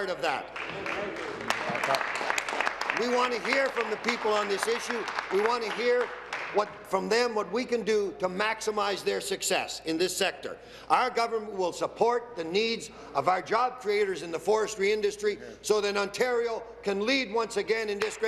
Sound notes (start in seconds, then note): 5.2 applause